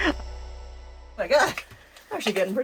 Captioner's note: laughs